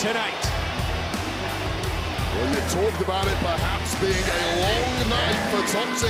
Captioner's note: crown chants "mandy"